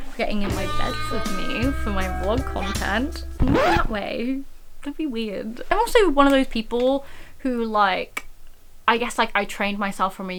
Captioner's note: record Scratch